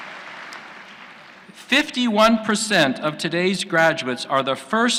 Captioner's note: applause